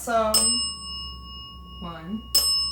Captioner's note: bell dings